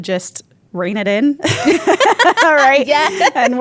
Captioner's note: both laugh